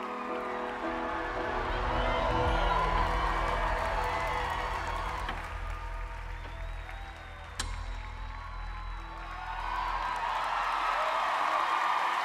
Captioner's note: cheering